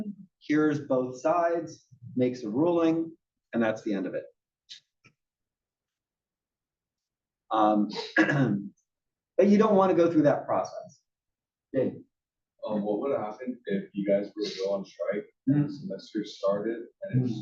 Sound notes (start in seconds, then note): 8.0 cough